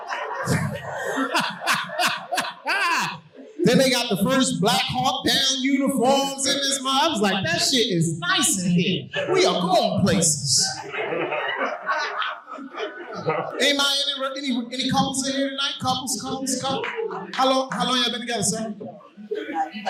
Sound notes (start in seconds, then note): 0.0 audience laughing; 10.6 audience laughing